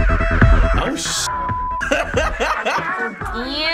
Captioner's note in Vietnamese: cười